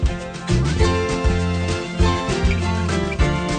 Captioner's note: none